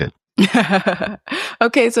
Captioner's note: chuckles